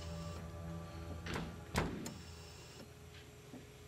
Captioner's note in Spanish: ruido de la puerta al salir